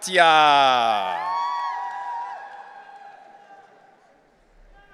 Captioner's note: audience cheering